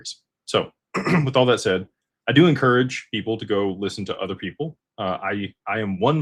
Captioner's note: clears throat